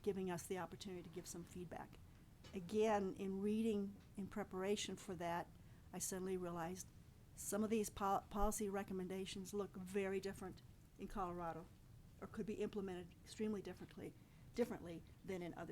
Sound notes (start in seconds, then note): none